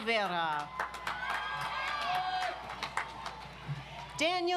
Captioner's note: audience applauds